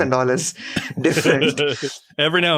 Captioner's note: laughs